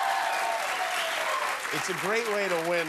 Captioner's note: applause